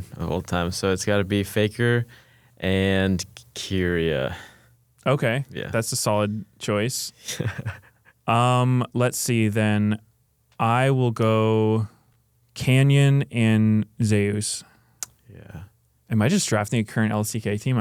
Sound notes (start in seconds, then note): 7.2 laughs; 14.4 clicks tongue